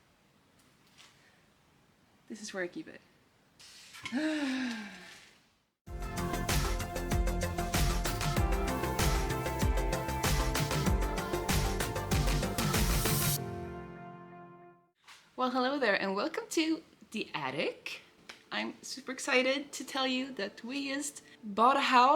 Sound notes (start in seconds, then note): 4.1 frustrated sigh